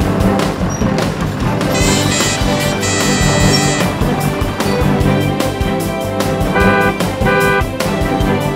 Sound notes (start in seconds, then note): 1.7 car horn; 6.5 car honking